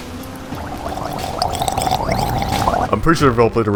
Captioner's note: gurgles on shower water